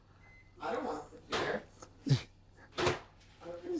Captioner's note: scoffs